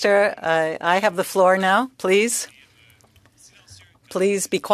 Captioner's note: speaking French